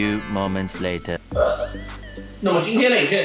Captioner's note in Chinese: 打嗝聲